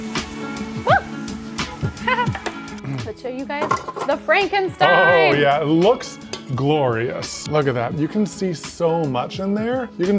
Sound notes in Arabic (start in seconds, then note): 1.8 تضحك